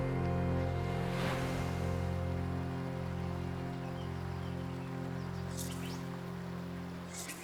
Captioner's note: birds chirping; water rustling